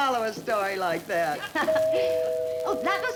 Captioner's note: doorbell rings